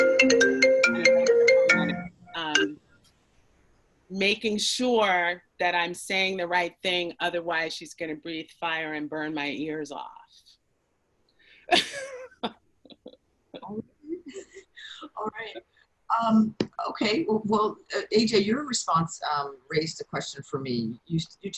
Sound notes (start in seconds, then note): 0.0 cellphone ringing; 11.7 laughs